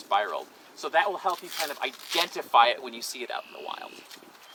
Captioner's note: reed tearing